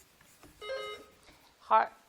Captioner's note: bell dings